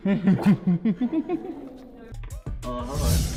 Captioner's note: laughter